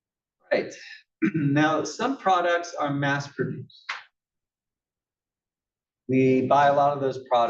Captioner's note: cough